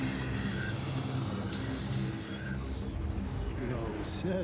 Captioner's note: ghostly voices whispering